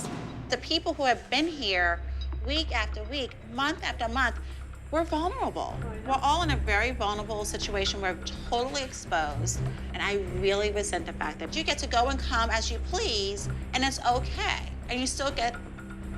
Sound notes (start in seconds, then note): none